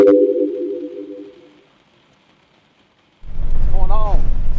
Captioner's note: dramatic chime